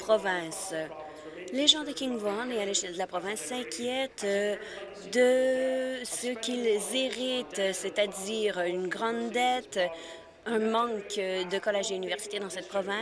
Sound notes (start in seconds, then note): none